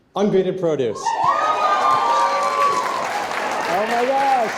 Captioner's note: audience cheering and applauding